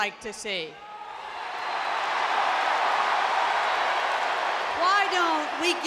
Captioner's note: audience cheering